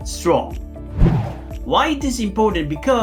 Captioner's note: air swooshing